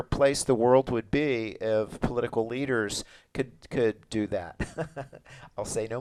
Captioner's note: laughs